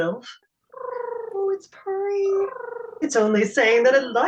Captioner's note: tribble coo-ing